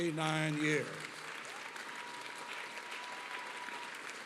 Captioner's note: applause